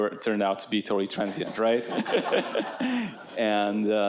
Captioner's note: audience members laughing